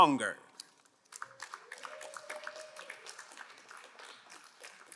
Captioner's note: crowd applauding